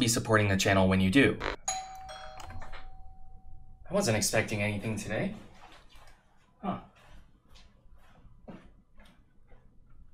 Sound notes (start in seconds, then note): 1.6 doorbell; 8.7 bzzt